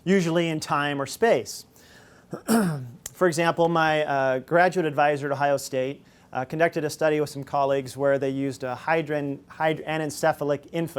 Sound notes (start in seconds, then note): 2.3 clears throat